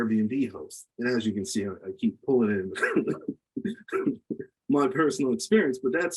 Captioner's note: laughs